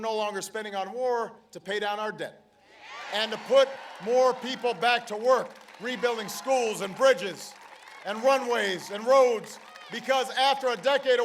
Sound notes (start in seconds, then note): 2.8 applause; 9.7 applause